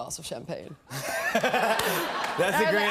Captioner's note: laughter